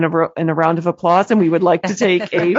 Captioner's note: laughter